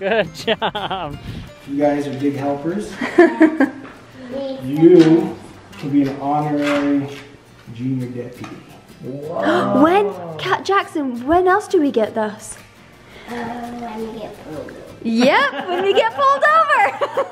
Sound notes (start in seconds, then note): 15.2 laughs